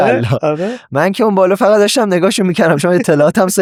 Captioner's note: laughs